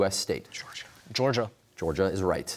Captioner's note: whispering